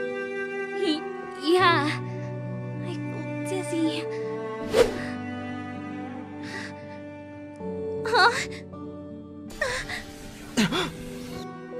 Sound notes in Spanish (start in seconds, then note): 6.1 exhalación; 9.0 quejido